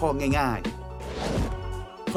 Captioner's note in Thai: เสียงเอฟเฟ็กต์